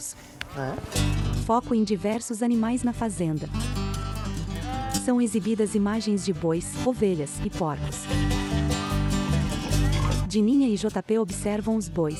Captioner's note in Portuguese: Ruídos da natureza